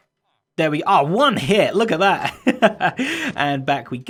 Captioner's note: chuckles